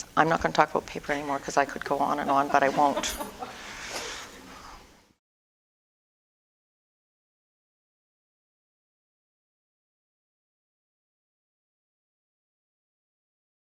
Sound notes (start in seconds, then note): 7.9 audience: Laughter